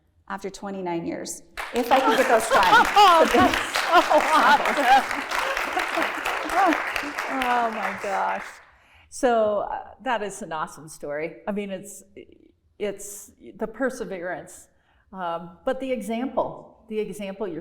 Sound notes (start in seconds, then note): 2.8 chuckles; 3.3 applause